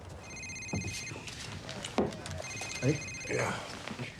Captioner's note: phone ringing